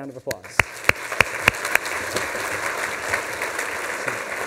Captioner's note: applause